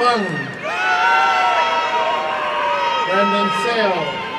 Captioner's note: applause and cheering